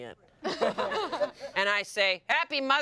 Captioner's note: everyone laughs